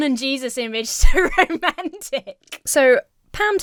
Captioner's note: Emma laughs